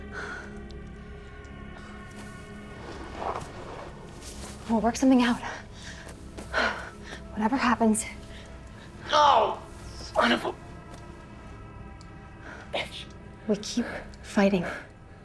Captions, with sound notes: (tense music) - We'll work something out. Whatever happens. - (groans) Wonderful. (tense music) - We keep fighting.